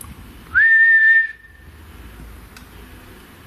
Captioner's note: whistling